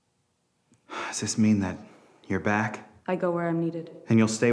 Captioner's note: sighs